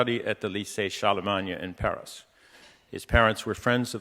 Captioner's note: speaking in foreign language